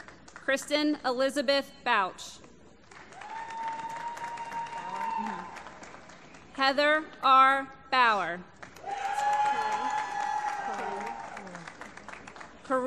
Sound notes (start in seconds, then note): 4.9 applause; 11.5 applause